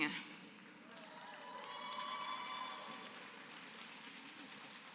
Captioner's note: applause